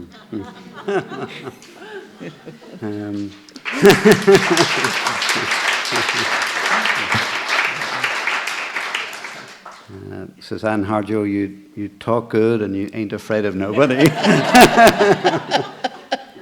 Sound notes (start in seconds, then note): 0.0 laughter; 3.5 applause; 13.7 laughter